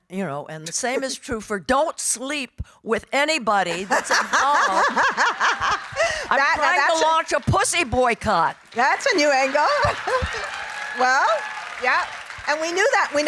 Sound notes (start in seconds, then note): 6.3 laughing; 8.1 audience cheering